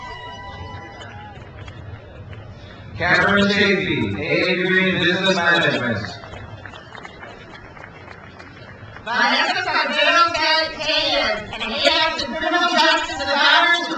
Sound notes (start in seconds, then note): 0.0 crowd cheers; 6.9 crowd applauds